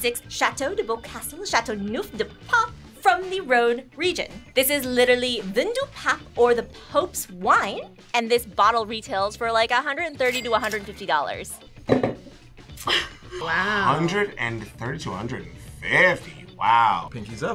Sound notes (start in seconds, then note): 11.8 glass clanks; 12.8 chuckles